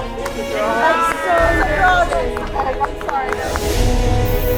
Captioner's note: light applause